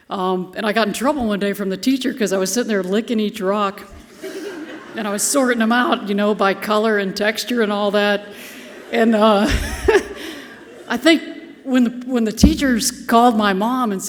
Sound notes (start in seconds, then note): 4.0 audience laughing softly; 8.3 chuckles